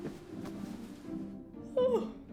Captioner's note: yawns